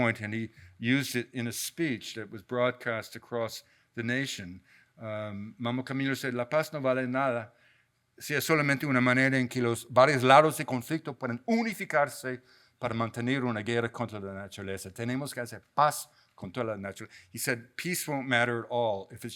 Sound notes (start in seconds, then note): 6.2 speaks in a foreign language; 12.8 continues to speak in a foreign language